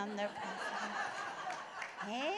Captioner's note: laughter